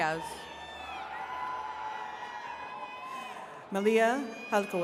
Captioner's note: attendees cheering